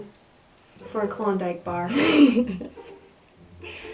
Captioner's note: laughter